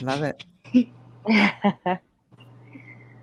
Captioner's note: laughs